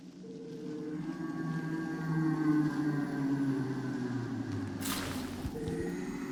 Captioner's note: ghostly howl